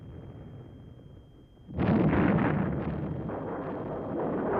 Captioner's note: explosions